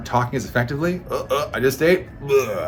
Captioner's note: mimicking gagging